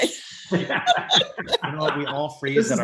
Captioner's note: group laughing